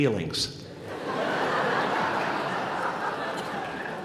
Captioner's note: laughter